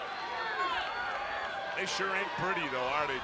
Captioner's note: crowd cheering